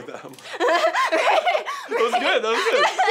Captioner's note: both laughing